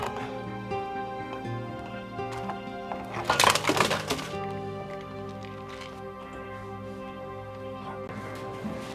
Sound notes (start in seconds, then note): 3.4 pills rattling